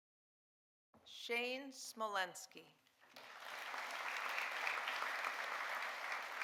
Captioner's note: audience applauding